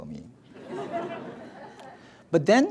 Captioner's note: audience laughs